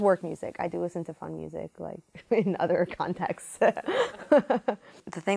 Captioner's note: laughing